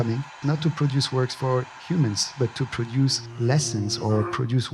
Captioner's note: distorted voice